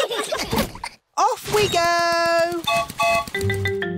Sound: whistle blows

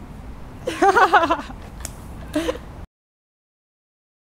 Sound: laughter

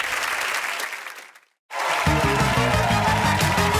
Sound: applause

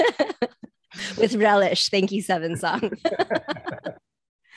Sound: laughing

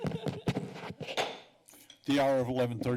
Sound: laughter; gavel tap

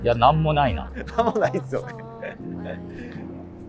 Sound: laughing

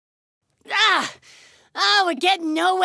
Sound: frustrated cry

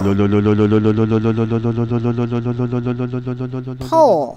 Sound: engine noise

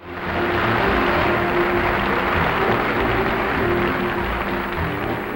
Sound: audience applauds; bright orchestral music

